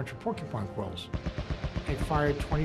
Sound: gunfire

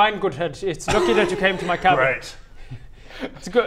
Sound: immature giggles

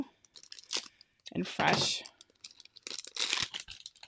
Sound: adhesive crinkling

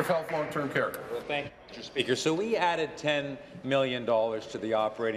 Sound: applause

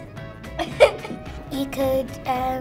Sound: laughter

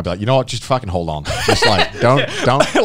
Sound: laughing

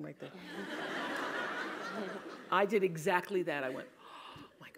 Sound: laugh

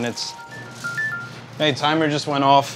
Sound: timer dinging

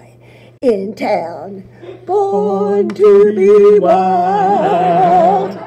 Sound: voices; audience laughs

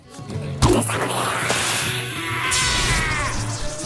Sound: hissing and screams

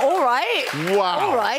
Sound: applause

